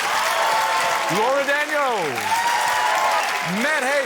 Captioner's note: cheering, applause